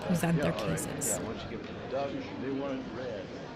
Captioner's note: chatter